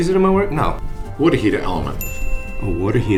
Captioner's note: ding